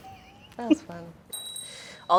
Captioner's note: laughing